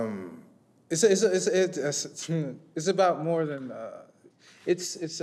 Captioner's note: stutters